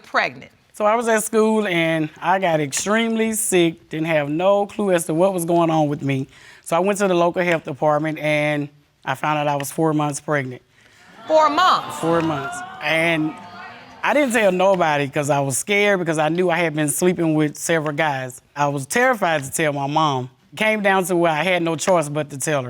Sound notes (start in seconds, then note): 9.0 audience exclaiming